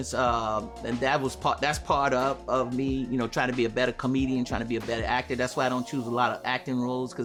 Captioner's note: none